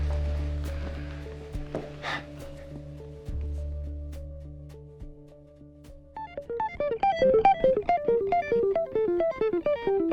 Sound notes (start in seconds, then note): 1.8 sighs; 6.1 rapid guitar music